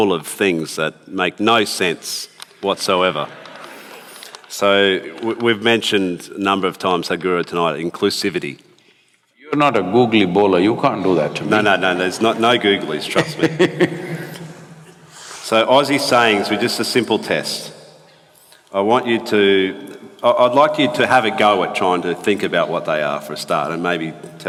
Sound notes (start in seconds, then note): 3.0 few laugh; 8.5 audio disturbance; 12.0 Sadguru laughs